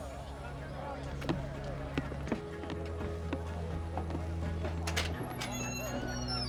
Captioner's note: indistinct chatter